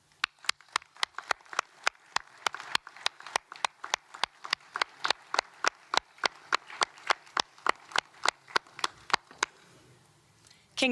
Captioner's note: applause